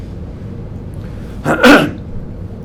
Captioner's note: clears throat